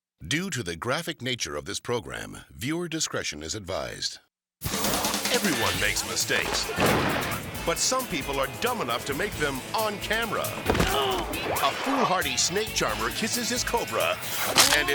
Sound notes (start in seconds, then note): 4.7 energetic music; 6.8 fireworks exploding; 10.8 jumper groaning